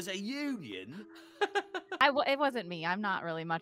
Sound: laughing

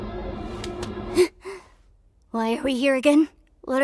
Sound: gasps

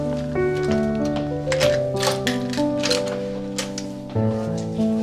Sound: door opens

